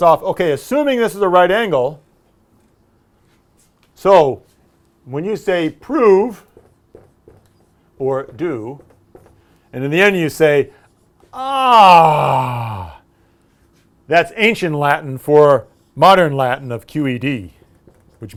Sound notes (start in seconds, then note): 11.4 sigh